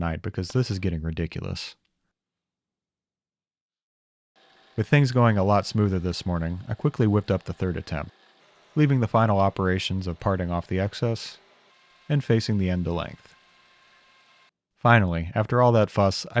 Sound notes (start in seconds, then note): 13.8 machine whirring